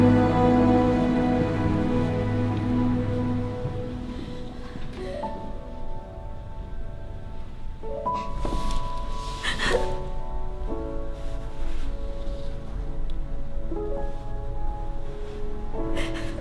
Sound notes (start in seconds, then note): 4.2 exhales heavily; 9.5 weeping